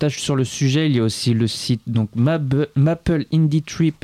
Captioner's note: French